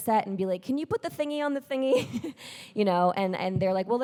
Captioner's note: chuckles